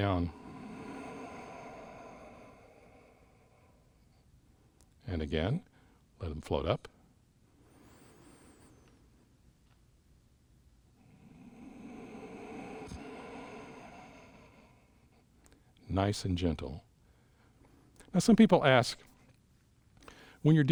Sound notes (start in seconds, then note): 0.0 exhales; 7.5 inhales; 11.0 exhales